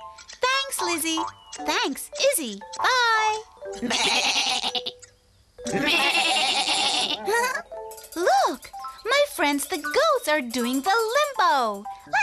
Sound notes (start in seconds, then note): 3.8 peep giggles; 3.8 sheep bleating